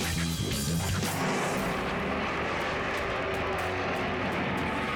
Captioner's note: engines roaring